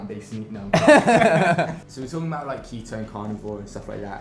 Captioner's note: both laugh